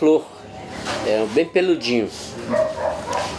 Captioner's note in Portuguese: latidos do lado de fora da casa